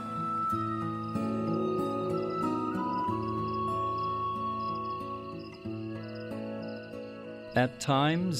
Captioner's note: crickets chirping